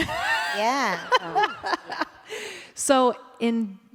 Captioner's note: laughter